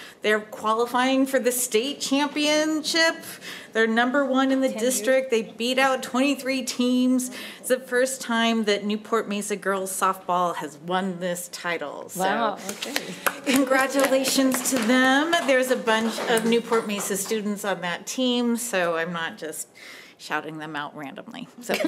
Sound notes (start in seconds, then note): 15.3 applause